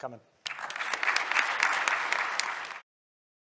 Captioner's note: audience applauding